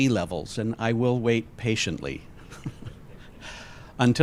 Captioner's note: laughs